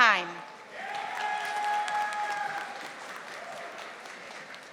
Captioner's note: audience applauding